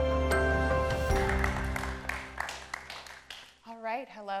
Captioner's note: audience applauding